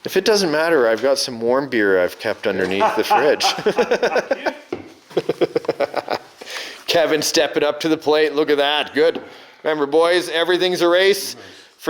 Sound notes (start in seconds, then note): 2.6 laughing